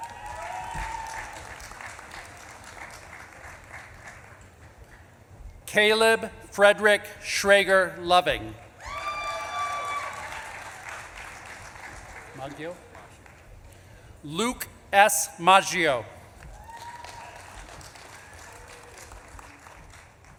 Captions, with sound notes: (audience claps and cheers) Caleb Frederick Schrager Loving. (audience claps and cheers) -Maggio? -Maggio. Luke S. Maggio. (audience claps and cheers)